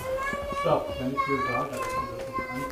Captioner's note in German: Kinderstimme im Hintergrund